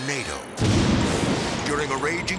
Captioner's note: storm rumbling